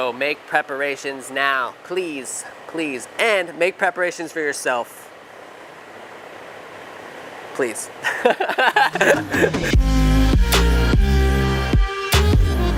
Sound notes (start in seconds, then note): 8.0 laughing; 8.8 upbeat music